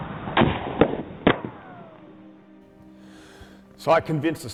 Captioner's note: explosion booms